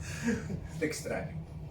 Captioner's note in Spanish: ríe